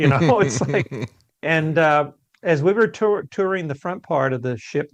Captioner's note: laughs